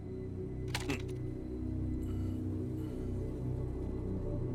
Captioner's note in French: cliquetis d'armes à feu